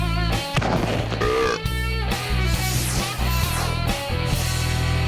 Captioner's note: upbeat rock music; belching